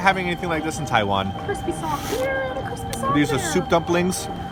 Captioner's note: adorable voice